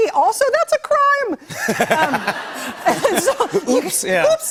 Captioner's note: laughter